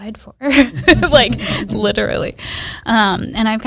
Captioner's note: laughs